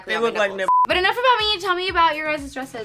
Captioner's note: beep